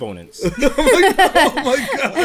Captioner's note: laughter